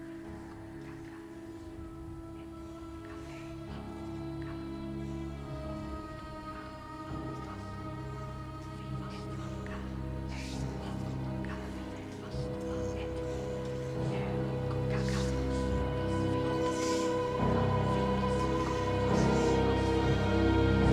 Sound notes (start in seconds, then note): 1.0 soft dramatic music; 4.4 whispering continues; 18.0 dramatic music